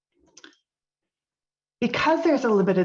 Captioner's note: mouse clicking